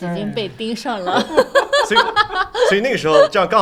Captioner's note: laughter